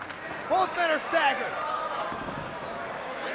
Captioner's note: applause